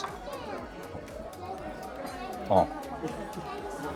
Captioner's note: people chattering